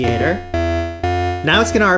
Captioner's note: digital tones